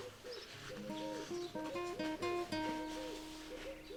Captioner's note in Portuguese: Esfregar de papel-toalha